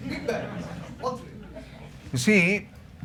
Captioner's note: laughter